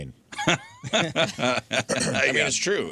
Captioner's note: laughter